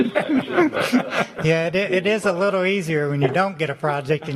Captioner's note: laughter